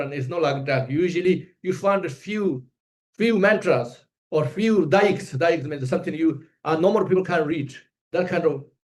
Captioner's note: tibetan